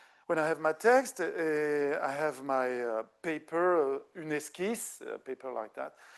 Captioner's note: speaking French